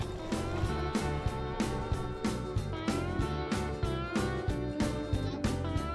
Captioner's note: water splashes; upbeat music